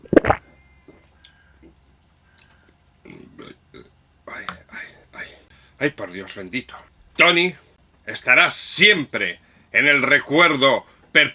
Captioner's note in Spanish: carraspeo